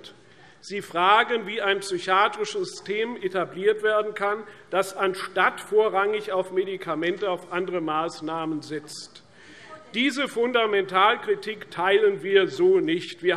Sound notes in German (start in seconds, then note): none